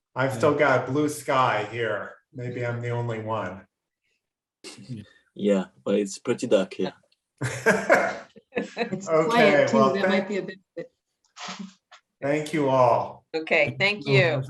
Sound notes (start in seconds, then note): 7.4 all laugh